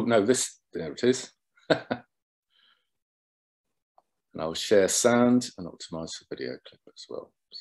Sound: laughter

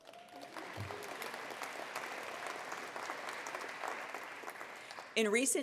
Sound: attendees applauding

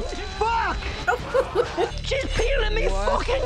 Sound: whimpering; laughing

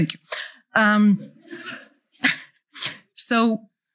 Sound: laughter

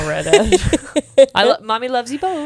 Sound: panel laughing

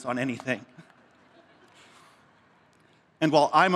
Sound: laughter

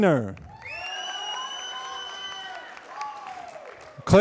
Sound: applause

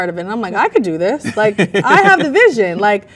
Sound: man laughs

